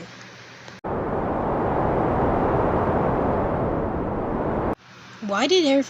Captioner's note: wind